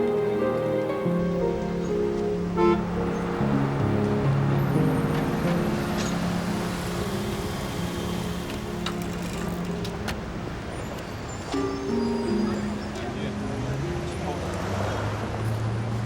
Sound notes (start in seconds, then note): 2.5 horn honks